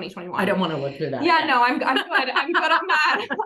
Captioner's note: both laughing